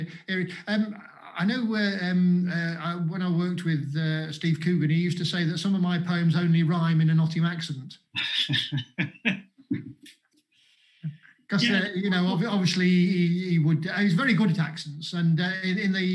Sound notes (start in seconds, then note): 8.2 chuckles